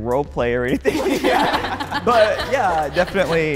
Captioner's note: group laughing